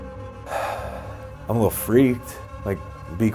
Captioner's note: sighs